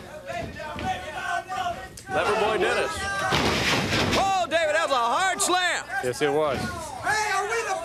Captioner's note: crowd chatter